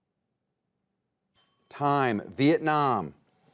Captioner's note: bell chimes